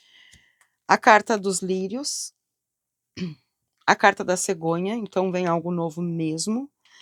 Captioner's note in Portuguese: limpando a garganta